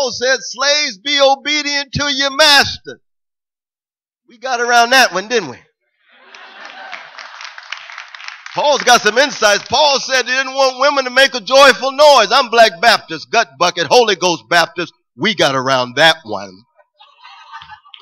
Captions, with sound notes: Well Paul said slaves be obedient to your master. We got around that one, didn't we? [APPLAUSE] Paul's got some insights. Paul said he didn't want women to make a joyful noise. I'm black Baptist, Gut Bucket Holy Ghost Baptist. We got around that one.